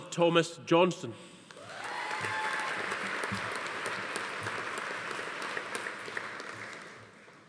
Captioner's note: attendees cheering; audience applauding